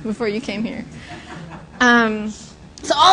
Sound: laughter

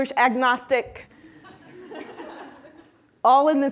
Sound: audience laughing

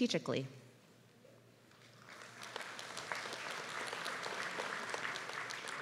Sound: applause

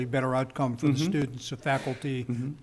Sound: laughing

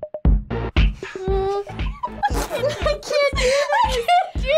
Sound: giggling

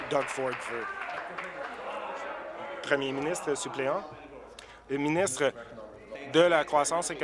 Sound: applause

